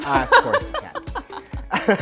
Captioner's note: laughs